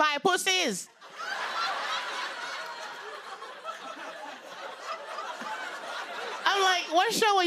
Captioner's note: laughter